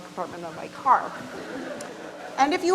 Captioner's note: audience laughs